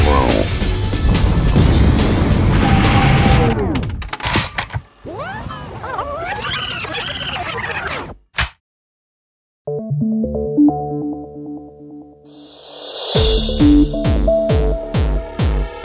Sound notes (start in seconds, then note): 3.1 cassette tape clicking; 3.1 energetic music stops; 5.0 cassette tape screeching; 8.4 cassette tape clicks; 9.6 lively techno music